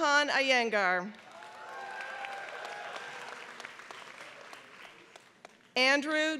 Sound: applause

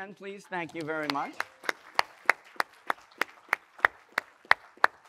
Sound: audience applauding

